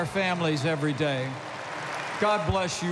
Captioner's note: applause